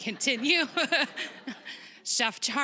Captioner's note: all laughing